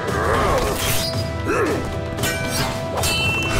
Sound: grunting

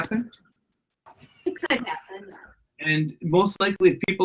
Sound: laughs

